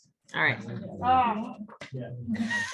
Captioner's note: laughs